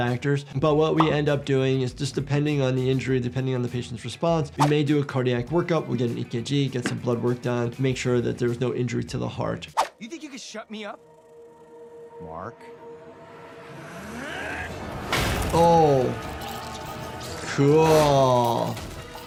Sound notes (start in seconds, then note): none